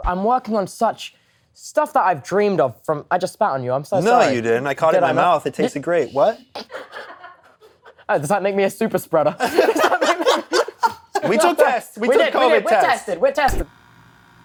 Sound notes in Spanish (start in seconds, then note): 6.6 risas; 9.3 risas